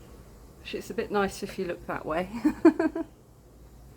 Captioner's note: laughing